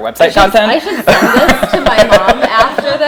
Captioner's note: laughing